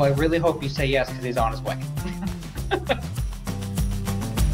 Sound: laughs; upbeat acoustic music

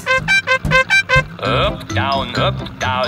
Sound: horn beeping

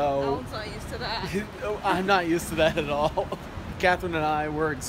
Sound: laughs

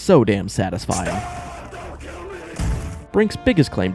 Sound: blam

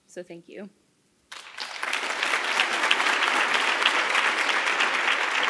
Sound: audience applauding

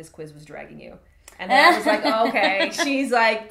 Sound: laughs

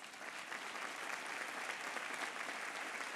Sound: applause

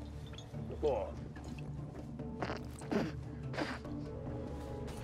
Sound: grunts in disgust

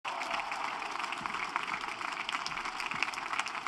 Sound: cheering and applause

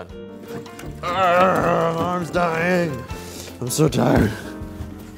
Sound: grunts

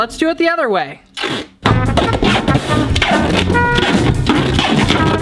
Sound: taping sounds

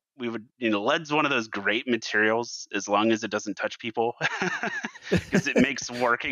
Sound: laughs

